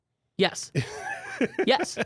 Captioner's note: laughs